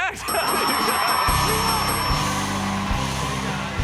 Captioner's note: cheers and applause